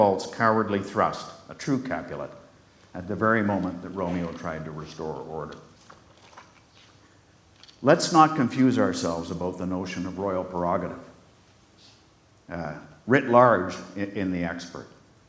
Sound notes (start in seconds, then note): none